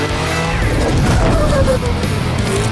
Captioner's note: slow-mo stutututu